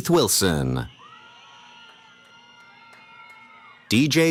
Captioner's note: cheering